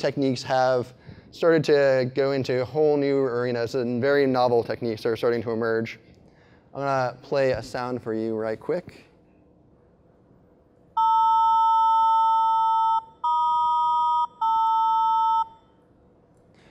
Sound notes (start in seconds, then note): 11.0 sustained beep; 13.1 beep